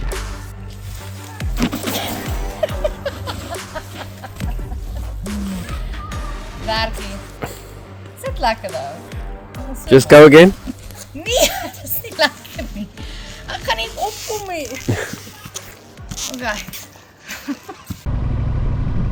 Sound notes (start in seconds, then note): 5.2 hhahahahahahaha